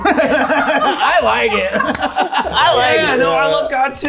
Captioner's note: people laughing